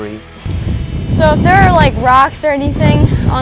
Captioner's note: wind blowing